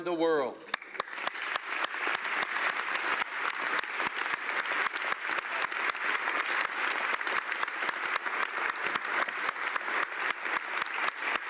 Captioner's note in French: Applaudissements